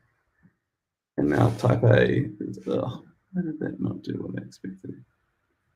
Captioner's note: murmurs